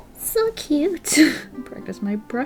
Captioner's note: laughs